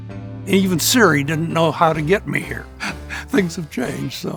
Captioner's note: laughs